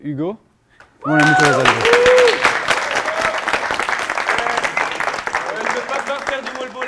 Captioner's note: applause